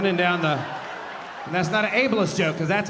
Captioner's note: audience laughing